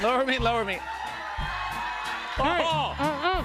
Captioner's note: cheers and applause